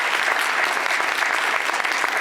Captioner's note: applause